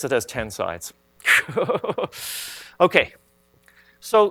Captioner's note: laughs